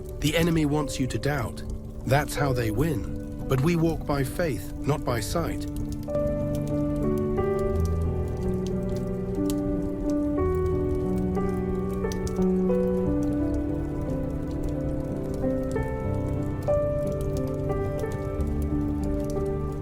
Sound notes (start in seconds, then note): 6.2 soothing piano music; 8.6 campfire crackling; 16.2 soothing piano music continues